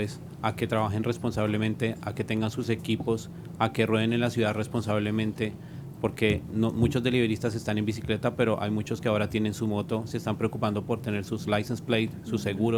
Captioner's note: speaking spanish